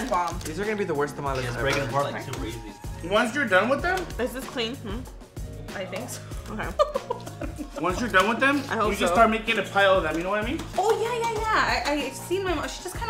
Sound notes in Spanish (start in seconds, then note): 6.7 riendo